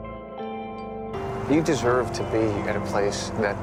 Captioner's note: voiceover